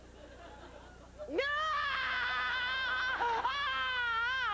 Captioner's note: sustained scream